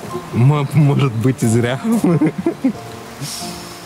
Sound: laughs

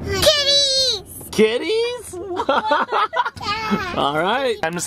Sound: laughs

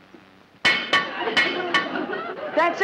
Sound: metal clanking

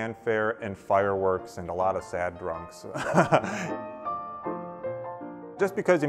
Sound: laughs

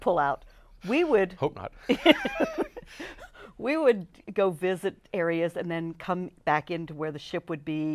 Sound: laughs

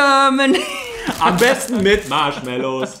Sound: laughs

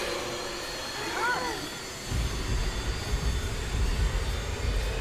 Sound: wincing

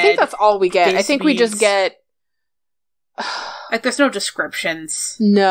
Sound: sighs

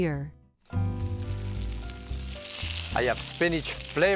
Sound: sizzling

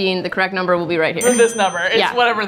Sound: bell dinging

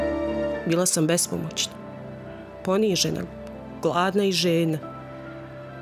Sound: woman speaking in foreign language

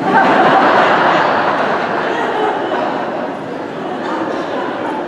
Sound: congregation laughing

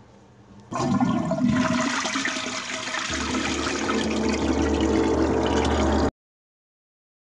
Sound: toilet flushes

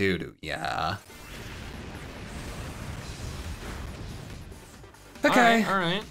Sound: air whooshing; upbeat music

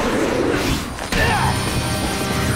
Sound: grunting

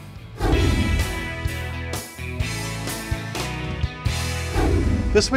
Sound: light background music; whooshing sound

